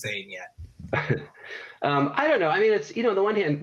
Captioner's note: laughs